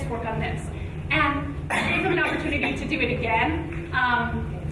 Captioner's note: speaking amidst coughing noise